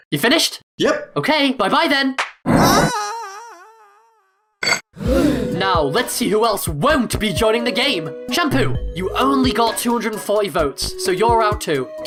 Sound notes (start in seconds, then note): 4.9 all gasp